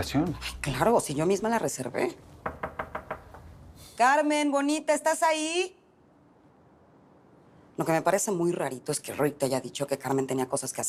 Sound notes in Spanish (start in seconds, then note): 2.4 Toques en la puerta